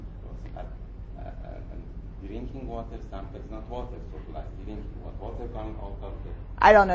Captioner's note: faintly speaking